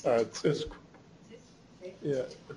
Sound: non-english

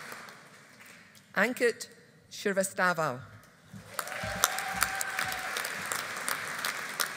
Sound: audience applauding

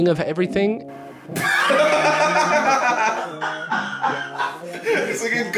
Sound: both laughing

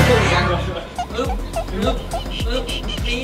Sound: chuckles; cheering

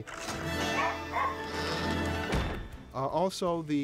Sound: barks

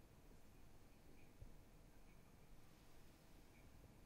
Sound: faint tapping

